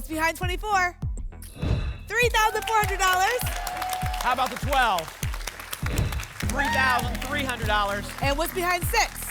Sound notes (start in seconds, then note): 1.4 whoosh; 5.8 whoosh